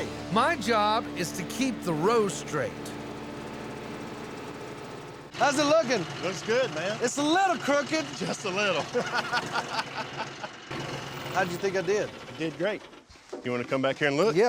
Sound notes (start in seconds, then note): 8.2 laughter